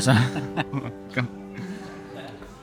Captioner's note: laughing